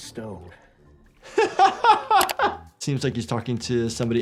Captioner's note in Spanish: el doctor se ríe